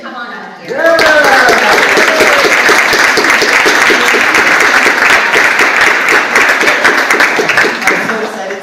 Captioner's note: audience applauds